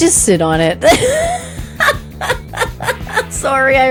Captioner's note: laughing